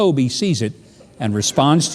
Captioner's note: crowd laughing